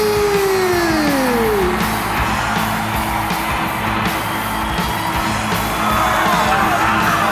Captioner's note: crowd cheering; upbeat music